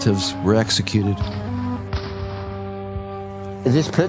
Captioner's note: gun shots